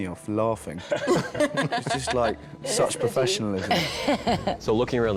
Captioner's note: all laughing